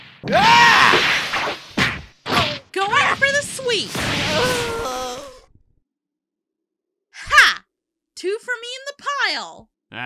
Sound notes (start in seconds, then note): 4.1 YAMCHA groans